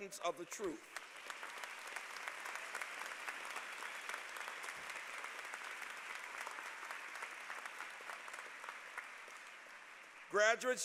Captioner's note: applause